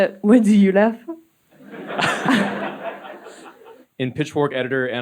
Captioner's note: audience laughing